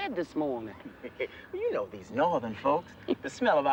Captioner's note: chuckles